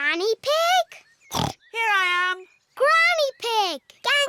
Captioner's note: snorts